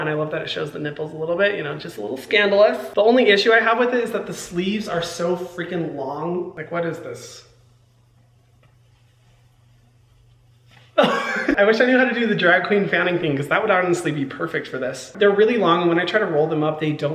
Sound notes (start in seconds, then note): 11.0 Hyram laughing